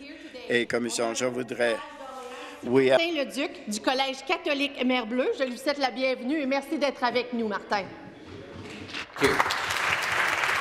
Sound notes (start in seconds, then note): 4.0 speaking in French